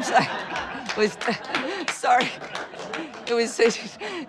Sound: all laughing

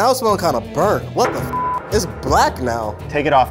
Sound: beep

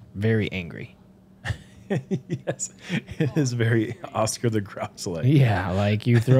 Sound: chuckles

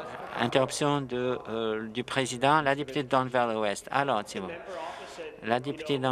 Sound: yelling

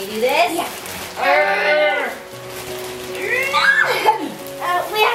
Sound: grunting

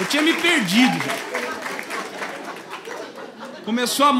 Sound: applause

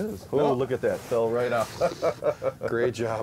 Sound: laughing

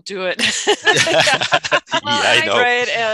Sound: laughing in unison

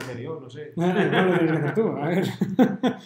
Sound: laughter

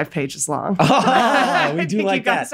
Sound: Charlie laughs

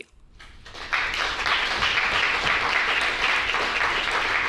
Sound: audience clapping

